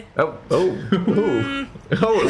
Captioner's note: Phil laughs